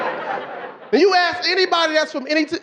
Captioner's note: audience laughing